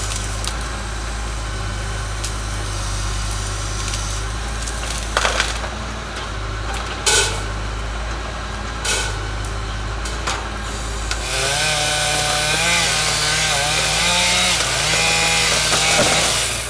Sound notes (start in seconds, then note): 4.5 wood cracking; 12.4 chainsaw humming